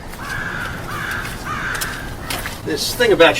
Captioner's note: crow cawing